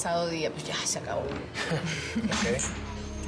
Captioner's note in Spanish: Risas